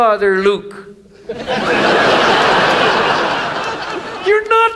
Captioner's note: audience laughs